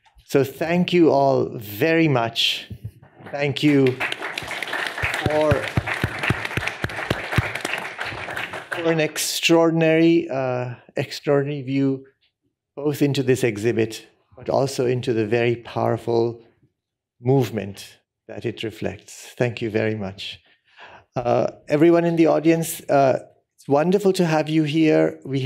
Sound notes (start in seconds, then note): 3.4 applause